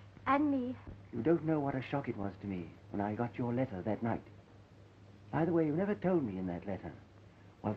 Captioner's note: none